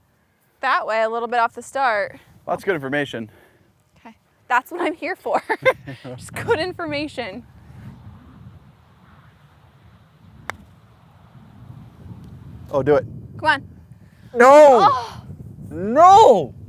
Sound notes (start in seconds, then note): 5.4 laughs